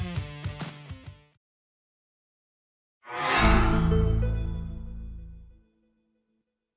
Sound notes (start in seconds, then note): 3.1 logo chime